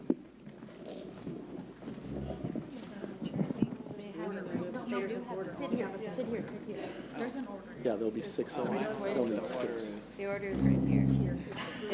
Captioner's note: background chatter